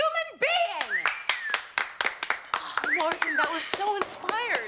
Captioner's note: students applaud and whistle